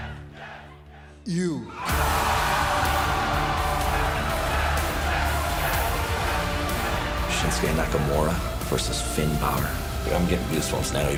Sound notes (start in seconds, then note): 1.8 cheers and applause